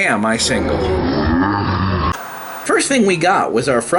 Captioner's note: growling